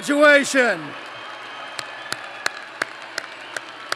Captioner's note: applause